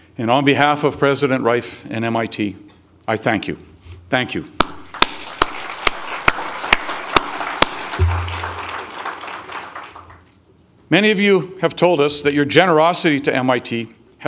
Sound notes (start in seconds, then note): 4.8 audience applauding